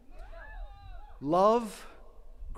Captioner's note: attendees cheering